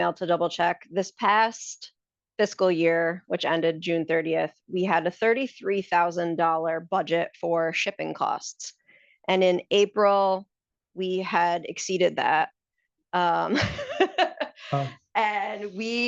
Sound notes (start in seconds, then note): 14.0 laughs